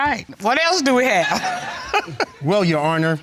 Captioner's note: chuckles